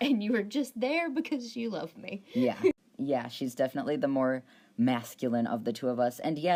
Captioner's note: laughs